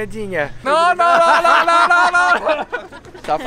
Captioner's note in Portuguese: risos